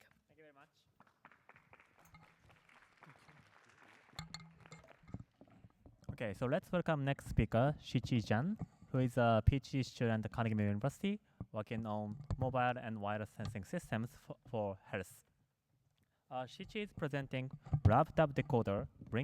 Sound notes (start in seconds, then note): 1.0 applause